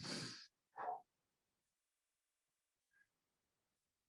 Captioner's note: breathes deeply